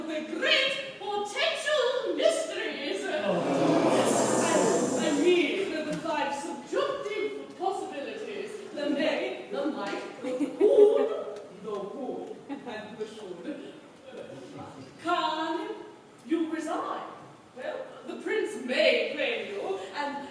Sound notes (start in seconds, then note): 3.2 The OTHERS groans collectively